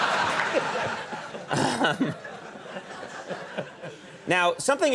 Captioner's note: audience laughing